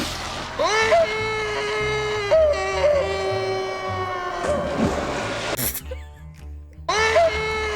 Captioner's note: guy screaming